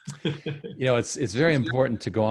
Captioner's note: chuckles